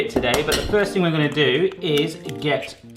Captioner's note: egg breaking